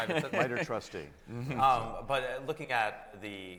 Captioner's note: chuckles